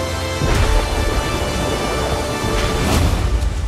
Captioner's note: thunder crashing